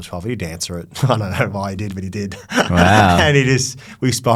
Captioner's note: laughs